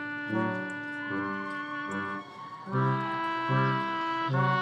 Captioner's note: audience cheering